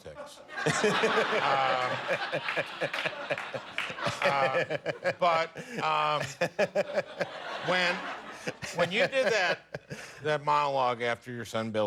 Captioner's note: laughter